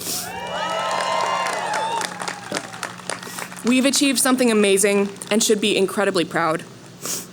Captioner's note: cheering